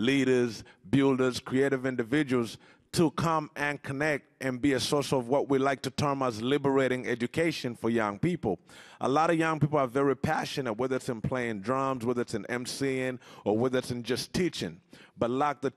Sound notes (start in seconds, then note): none